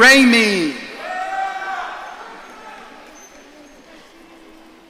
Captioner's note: audience cheering